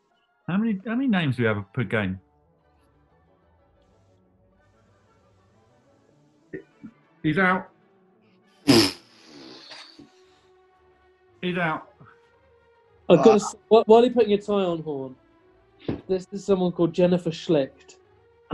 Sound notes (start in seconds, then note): 8.4 splutters